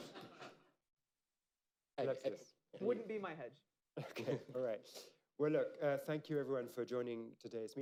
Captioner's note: laughter; laughter